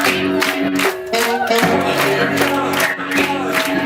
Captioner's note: clapping